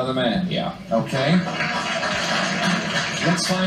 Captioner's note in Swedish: Applåder